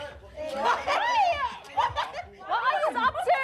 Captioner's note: laughs